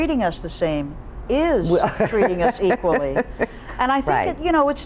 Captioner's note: laughing